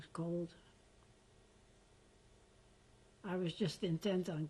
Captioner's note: pauses for 3 seconds